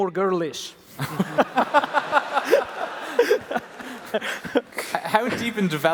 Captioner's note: laughter